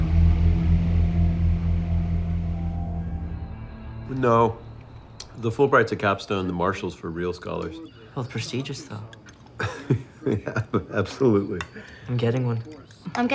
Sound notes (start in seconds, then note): 0.0 tense music continues; 9.5 laughs